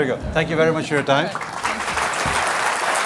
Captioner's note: applause